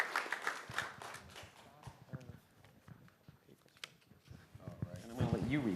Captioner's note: applause